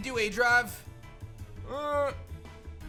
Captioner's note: grunts